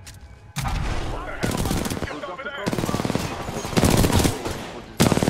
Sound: radio

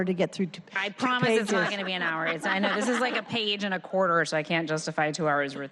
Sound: laughter

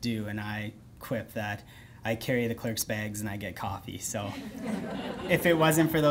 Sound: laughter

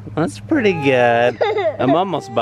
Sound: fusses

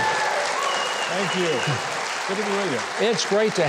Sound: audience applauding

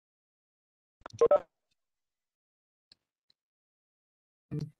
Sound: silence

